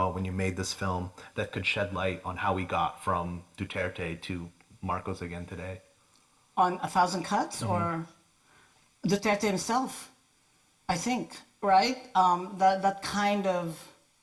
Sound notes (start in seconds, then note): 7.6 assents